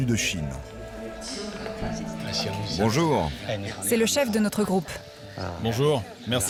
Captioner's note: all speaking foreign language